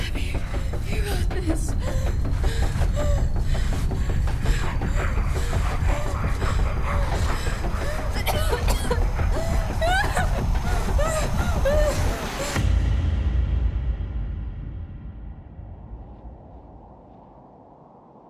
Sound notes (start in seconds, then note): 2.1 Abby pants; 2.1 urgent music; 8.5 Abby coughs; 10.3 Abby whimpers; 12.5 dramatic musical score; 15.8 wind blows